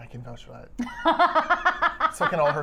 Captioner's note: laughing